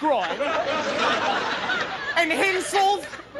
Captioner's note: audience laughing